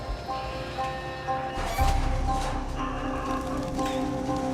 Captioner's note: sound of gate opening